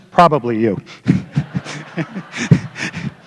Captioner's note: laughter